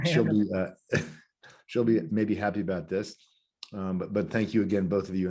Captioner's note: chuckles